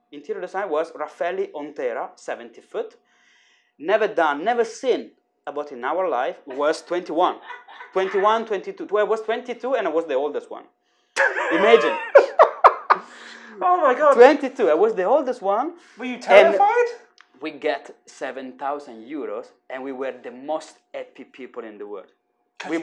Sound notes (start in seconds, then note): 11.2 laughs